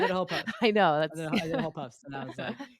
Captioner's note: laughing